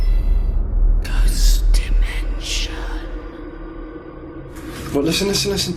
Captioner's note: ghostly Voice